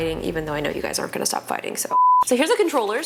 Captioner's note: beeps